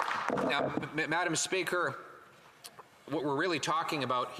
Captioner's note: some Applause